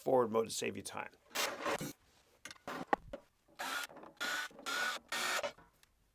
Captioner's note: power drill whirring